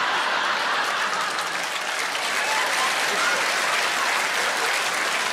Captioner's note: audience applauds; audience laughs